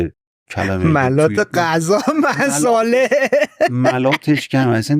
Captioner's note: laughs